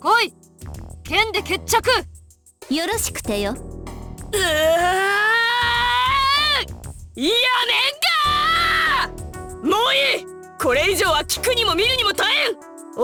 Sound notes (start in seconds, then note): 4.3 exasperated groan